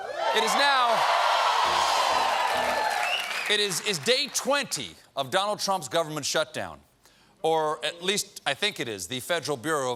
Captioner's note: cheers and applause